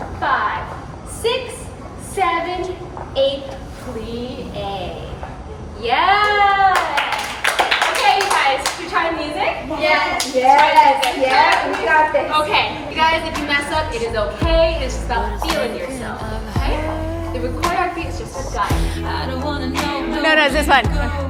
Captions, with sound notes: five, six, seven, eight, plie. Yeah! (group claps) Okay you guys, can we try the music? - Yes, we've got this. - Okay. You guys, if you mess up, it is okay, it is just about feeling yourself, okay? The choreography is just for guidance. No no it's this one,